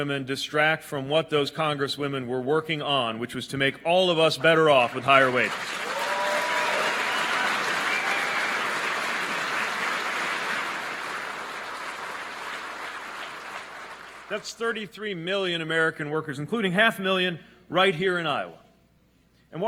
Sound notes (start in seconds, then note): 10.5 applause